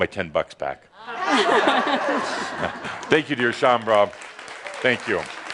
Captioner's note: laughter